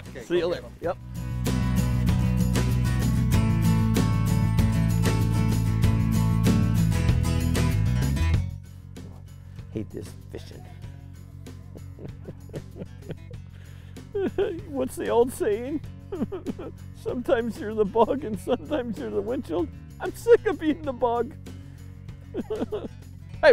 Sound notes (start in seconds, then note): 11.4 chuckles